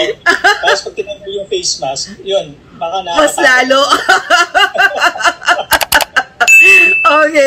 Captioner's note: laughter; laughter